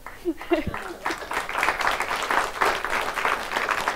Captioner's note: audience applauds